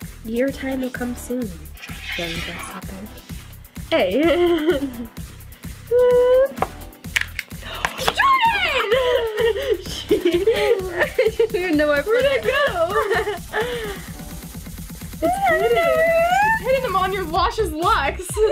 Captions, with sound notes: - Your time will come soon, young grasshopper. Hey. Jordan! - I don't know where I put it. - Where'd it go (laughs)? It's pretty. - I don't where it is. - Putting them on your luscious locks.